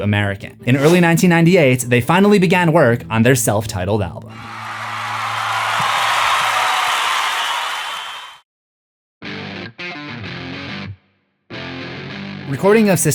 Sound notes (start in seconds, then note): 4.3 crowd cheering